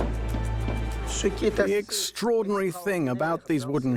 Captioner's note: voiceover